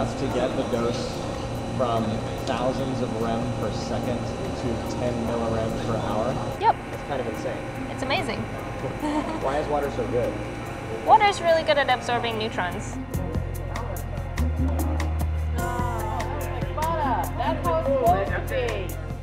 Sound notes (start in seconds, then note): 13.1 upbeat music; 13.1 crowd